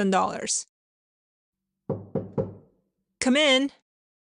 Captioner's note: knock at the door